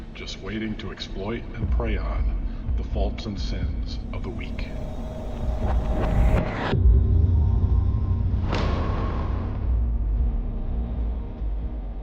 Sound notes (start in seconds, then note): 5.8 bizarre transition sound; 8.8 heavy metal music begins playing